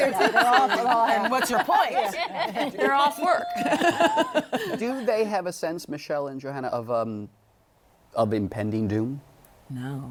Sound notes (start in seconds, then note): 0.0 laughs